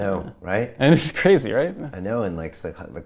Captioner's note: chuckles